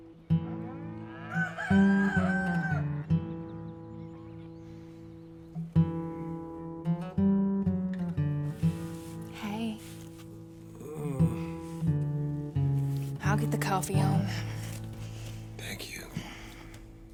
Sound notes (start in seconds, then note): 10.7 John merely grunts and doesn't open his eyes; 13.8 murmurs